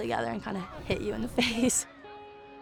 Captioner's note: laughs